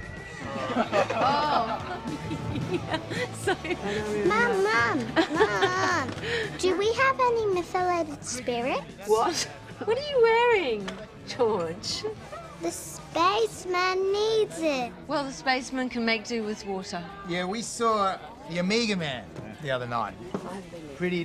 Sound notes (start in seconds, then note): 0.4 laughing; 0.5 laughter